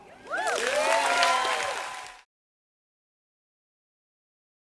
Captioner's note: audience cheers and applauds